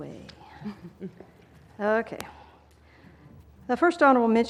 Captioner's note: laugh